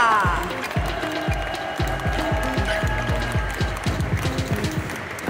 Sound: Kenianisches Team jubelt laut; Kenyan team cheers loudly; ♫ Midtempo guitar music ♫; applause

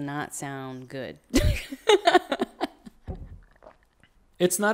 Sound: laughs

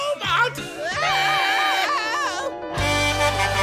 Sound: screaming

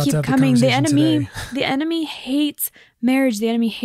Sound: laughs

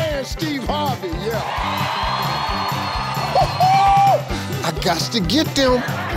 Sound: audience cheers

